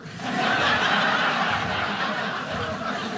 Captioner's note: audience laughing